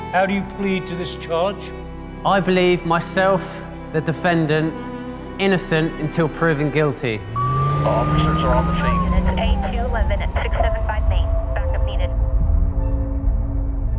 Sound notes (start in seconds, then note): 7.6 radio voice; 11.1 dramatic music